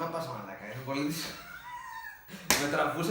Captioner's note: both Laughing hysterical